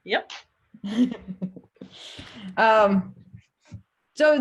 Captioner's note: laughs